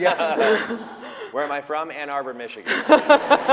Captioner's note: laughter